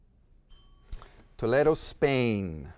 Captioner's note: bell ringing